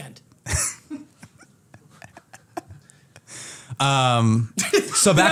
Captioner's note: laughter